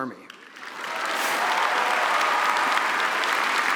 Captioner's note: applause